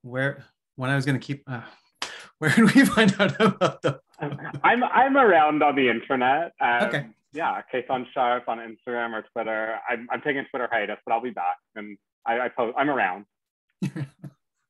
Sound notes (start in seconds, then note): 2.8 laughing